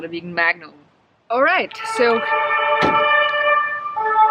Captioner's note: sirens in the backgroung